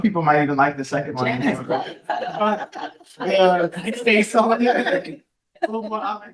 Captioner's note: people chattering and laughing